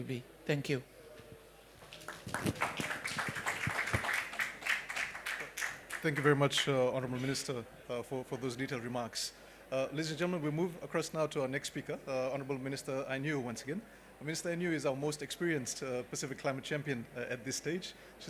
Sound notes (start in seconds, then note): 1.8 applause